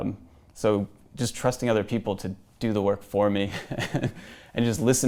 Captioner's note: laughs